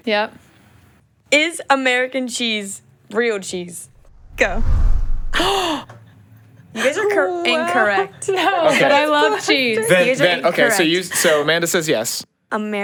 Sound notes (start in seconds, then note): 4.0 air whooshes; 5.3 gasps